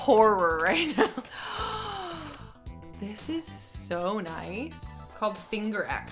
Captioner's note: gasps